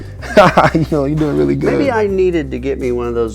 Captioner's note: laughing